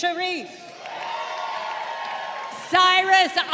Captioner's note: crowd cheering